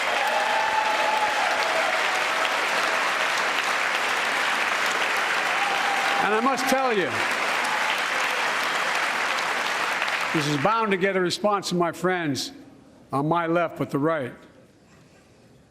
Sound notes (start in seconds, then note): 6.2 applause